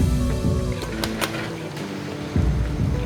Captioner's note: metallic slamming